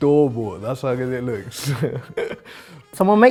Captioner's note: laughs